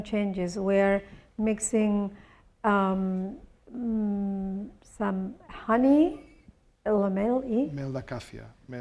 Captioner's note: speaking spanish